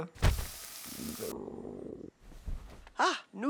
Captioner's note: stomach growling